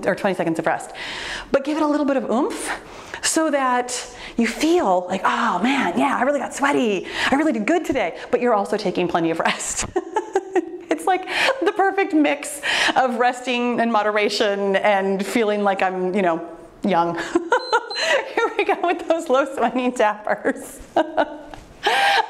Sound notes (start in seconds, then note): 9.8 laughs; 17.3 laughs; 17.5 timer beeps